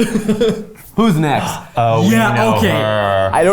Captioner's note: laughs; gasps